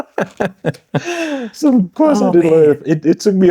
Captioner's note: laughing